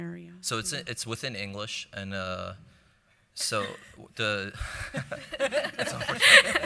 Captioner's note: laughing